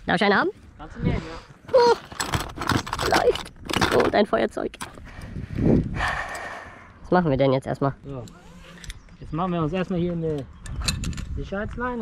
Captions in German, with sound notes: Darf ich einen haben? - Kannst du nehmen, ja. - Joa... vielleicht... Und ein Feuerzeug >:D [SEUFZEN] Was machen wir denn jetzt erstmal? - So. Jetzt machen wir uns erstmal hier eine.. ..Sicherheitsleine.